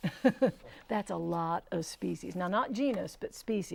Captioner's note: laughing